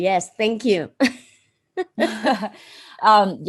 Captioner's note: laughs